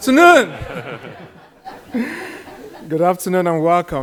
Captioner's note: people laugh